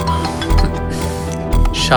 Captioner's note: mobile rings